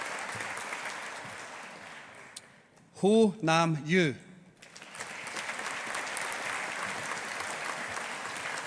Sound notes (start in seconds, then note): 4.6 audience applauding